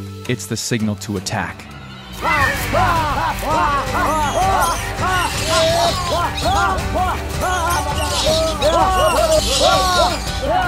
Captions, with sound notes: It's the signal to attack. (men hollering) (animals screeching)